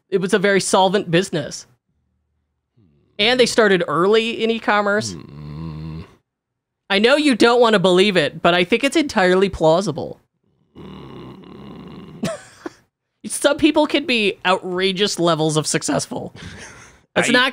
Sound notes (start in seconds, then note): 5.0 groans; 10.8 groans